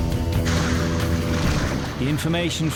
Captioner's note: dramatic music; boat engine revving